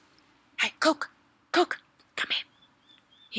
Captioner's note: captain whispering